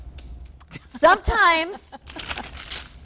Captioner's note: laughing